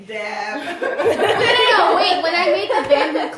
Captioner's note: laughter